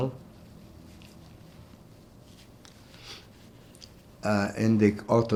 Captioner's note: wiping nose